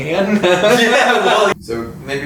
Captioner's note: laughs